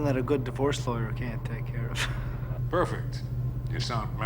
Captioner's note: laughs